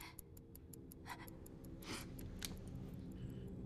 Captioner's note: sniffles